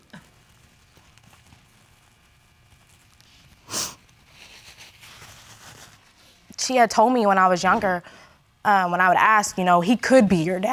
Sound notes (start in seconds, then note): 3.6 sniffles